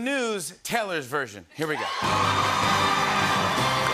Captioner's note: cheers and applause